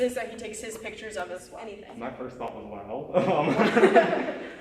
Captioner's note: laughter